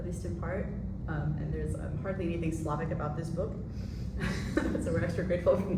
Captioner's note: laughs